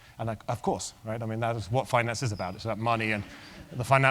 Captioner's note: laugh